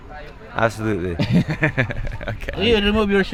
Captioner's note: laughs